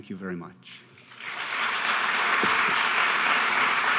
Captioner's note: applauding